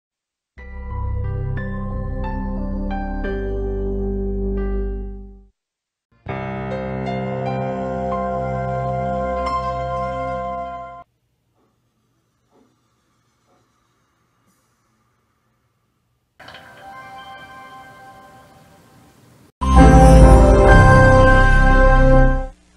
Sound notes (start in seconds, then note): 0.8 soothing piano music; 6.2 dramatic piano music; 11.6 quiet whooshing sounds on TV; 16.4 nostalgic music